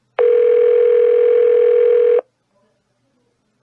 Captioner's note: phone still ringing